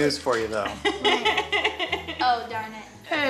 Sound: laughing

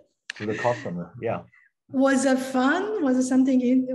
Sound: laughs

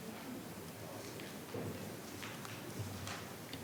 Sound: speaking faintly

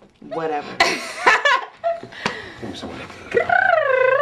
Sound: laughing

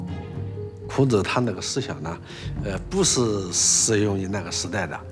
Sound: speaking Chinese

